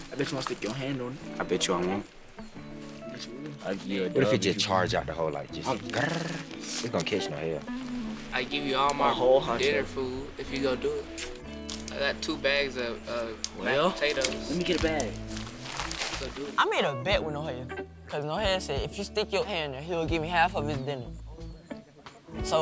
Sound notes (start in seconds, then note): 5.7 rolls tongue